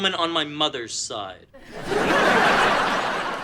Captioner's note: audience laughing